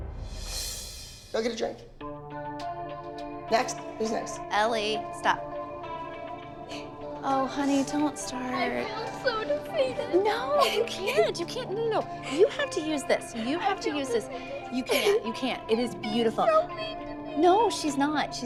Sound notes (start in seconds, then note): 6.7 crying